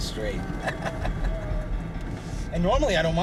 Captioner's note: chuckling